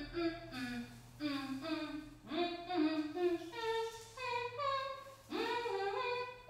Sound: humming " "

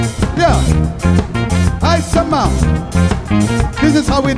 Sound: speaks foreign language

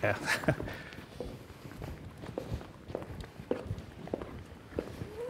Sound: chuckles

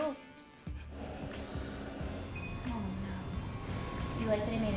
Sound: machine beeps

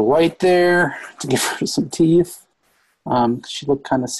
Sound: laughs

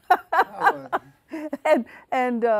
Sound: laughing

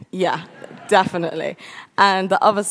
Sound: audience laughs

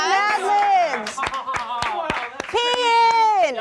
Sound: all clapping

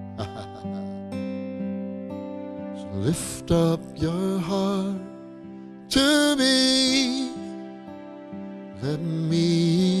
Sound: chuckling

